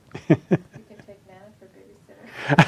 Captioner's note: laughing